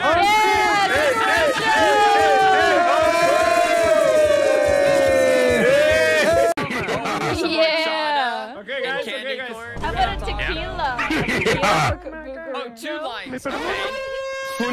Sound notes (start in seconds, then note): 5.6 laughs; 6.2 deep laugh going "Hihihihaha!"; 10.9 boom sfx, "Ahhhhhh!"; 11.0 deep laugh going "Hihihihaha!"; 13.4 alarm siren sound